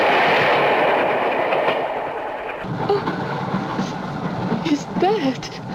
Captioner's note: sobbing